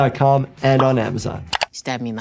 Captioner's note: mouse clicking